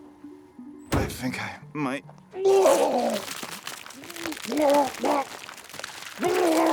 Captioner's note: retches; Walter retching